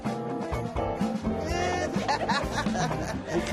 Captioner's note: laughter